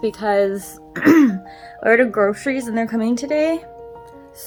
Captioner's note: clears throat